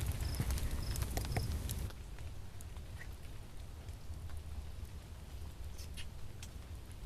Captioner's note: fire crackling; insects buzzing